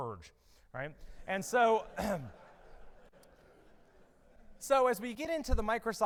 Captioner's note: audience laughing